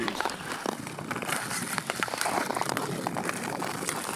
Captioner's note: ice crunching